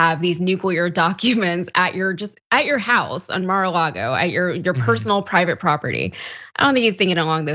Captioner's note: laugh